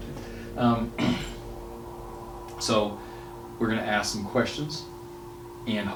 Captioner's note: faintly speaking